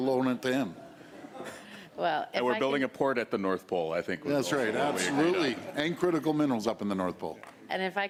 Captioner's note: laughter